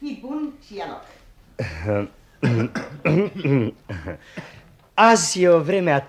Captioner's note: coughs